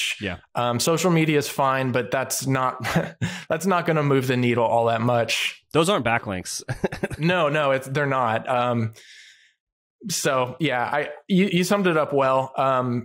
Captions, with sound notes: Yeah. Social media is fine but that's not going to move the needle all that much. Those aren't backlinks. (laughs) No. No, they're not. So yeah, you summed it up. Well,